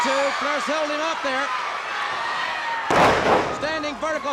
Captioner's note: bodies thudding